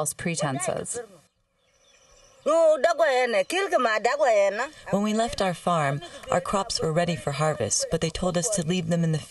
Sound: through translator

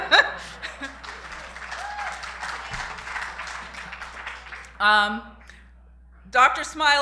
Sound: applause

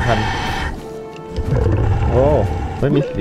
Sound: exhale

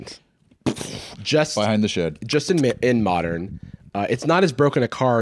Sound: imitates gunshot

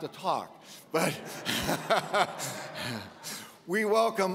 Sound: audience laughs

